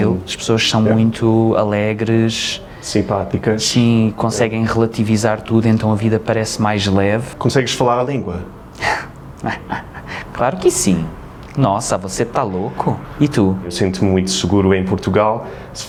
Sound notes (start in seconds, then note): 12.1 Brazilian accent